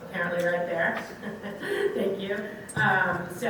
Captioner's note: laughs